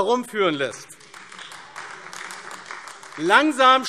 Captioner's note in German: Beifall AfD